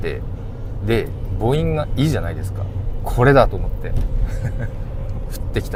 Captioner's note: laughs